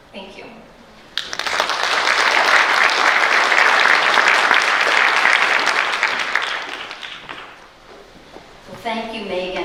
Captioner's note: applause